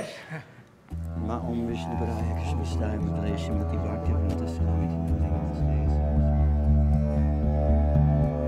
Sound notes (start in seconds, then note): 0.1 speaking foreign language; 2.5 praying in foreign language